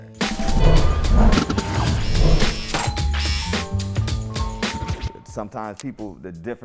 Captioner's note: beeps; mellow R&B music; clippers buzzing